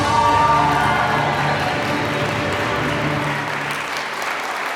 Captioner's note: applause